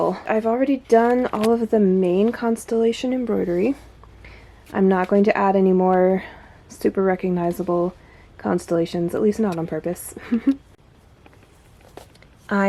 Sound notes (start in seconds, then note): 10.2 snickers